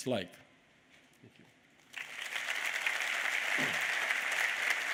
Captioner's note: applause